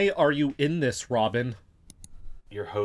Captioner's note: presses play, click